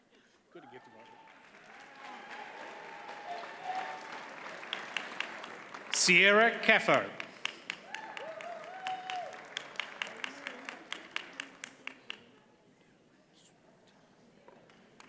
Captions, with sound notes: (audience cheers and applauds) Sierra Caffo. (attendees cheer and applaud)